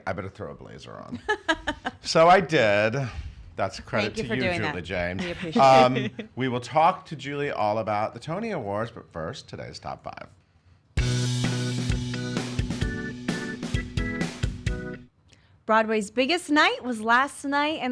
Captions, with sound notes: I better throw a blazer on. (laughing) - So, I did. That's credit to you Julie James. - Thank you for doing that, we appreciate it. - We will talk to Julie all about the Tony Awards. But first, Today's Top Five. (upbeat music) - Broadway's biggest night was last night